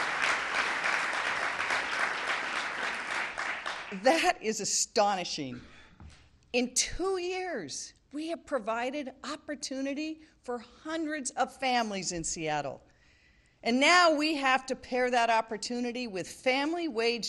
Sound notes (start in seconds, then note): 2.8 cheering; 3.4 applause